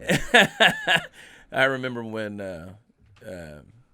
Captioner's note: laughing